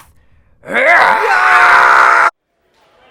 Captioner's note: Death Match noises